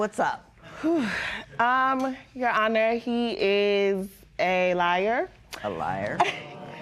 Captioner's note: sighs; spectators murmur